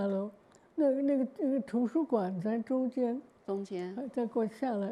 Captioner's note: Mandarin